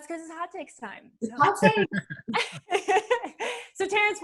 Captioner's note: laughter